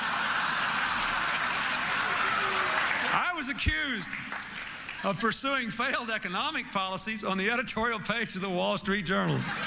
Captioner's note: laughter